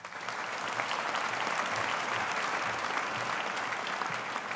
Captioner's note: audience applauding